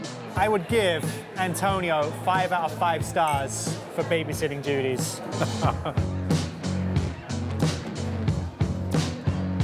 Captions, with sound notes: - I would give Antonio five out of five stars for babysitting duties. (laughter) (upbeat music)